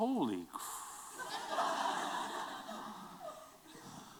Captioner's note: laughter